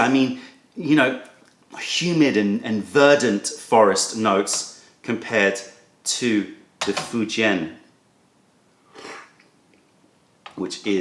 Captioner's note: sips tea